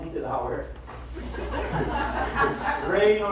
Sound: laughter

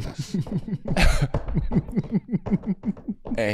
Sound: snickering

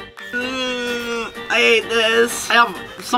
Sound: whining

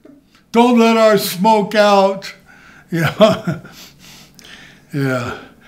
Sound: laughs

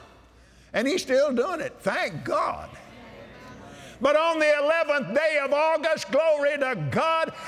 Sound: audience Agrees

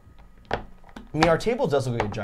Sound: blade clicking

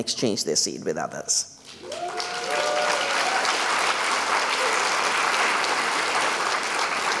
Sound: applause and cheering

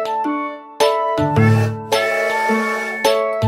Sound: train sounds

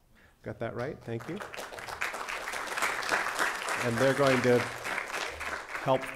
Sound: applause

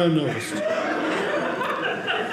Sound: audience laughing

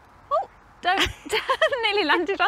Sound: both laugh

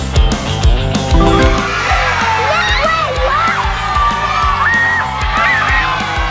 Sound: kids cheer with excitement

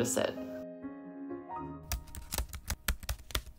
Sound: typing sound effects

